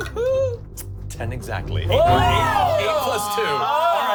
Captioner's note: chuckles; everyone cheers